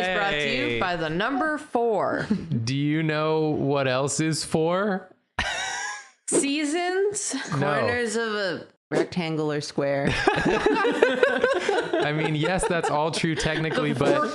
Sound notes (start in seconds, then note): 5.2 Jathan wheezes; 10.2 laugh together